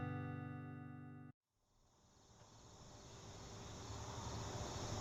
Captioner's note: crickets chirping